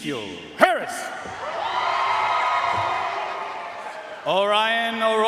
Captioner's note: audience cheering and applauding